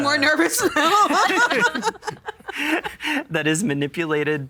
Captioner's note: all laughing